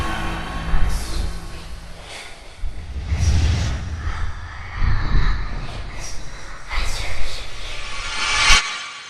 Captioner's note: whispers